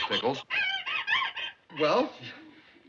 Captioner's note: pickles crying on phone